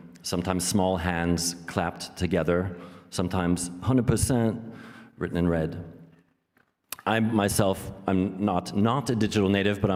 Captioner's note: none